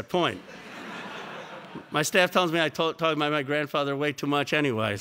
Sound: laugh

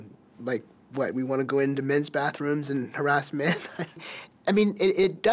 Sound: laughs

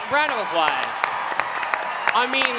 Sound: cheering

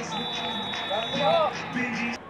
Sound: whistle

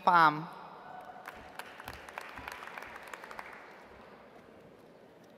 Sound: audience applauds

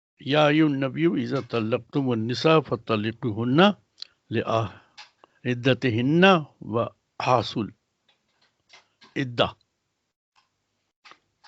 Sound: recites arabic

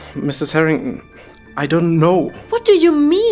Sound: none

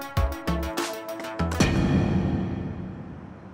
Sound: teleportation Sound FX

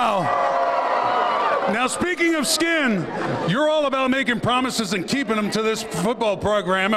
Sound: cheers and applause

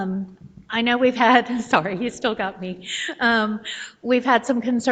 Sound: laughs

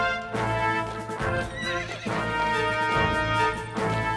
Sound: horse whinnies

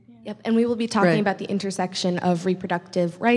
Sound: voiceover

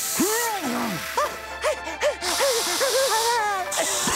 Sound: panting, spraying; coughing, spraying

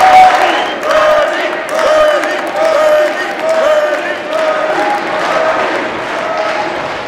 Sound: Chanting 'Bernie'

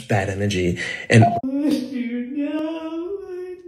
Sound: crying dramatically

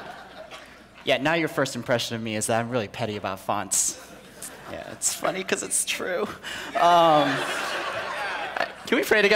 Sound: people laughing

